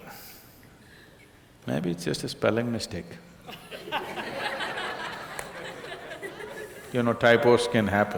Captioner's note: laughter